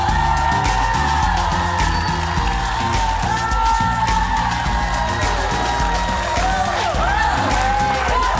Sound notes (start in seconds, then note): 4.0 audience cheering; 7.2 upbeat music